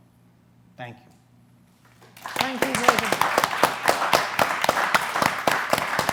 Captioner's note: applause